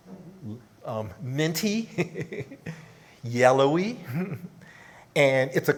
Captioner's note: laughs